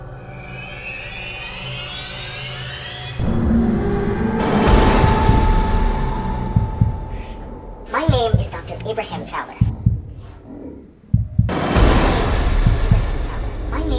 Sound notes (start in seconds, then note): 0.2 tense music; 7.8 heartbeat thumping; 11.4 dramatic music